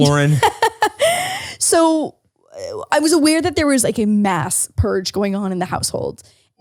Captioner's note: laughs